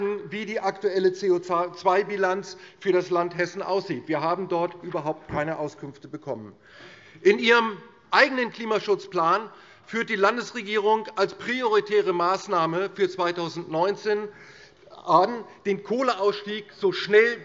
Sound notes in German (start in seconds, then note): none